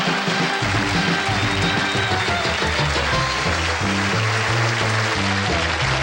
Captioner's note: audience laughs; audience cheering; band playing